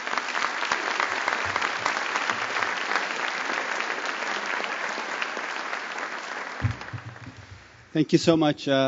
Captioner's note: applause